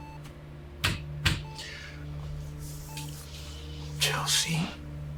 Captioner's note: door clacking